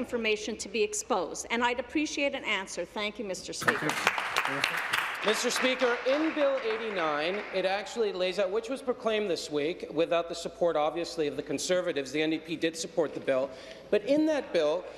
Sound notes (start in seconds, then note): 6.5 applause